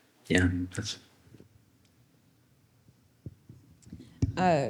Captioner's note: silence